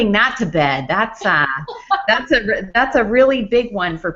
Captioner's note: laughs